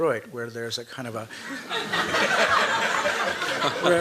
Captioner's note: laughter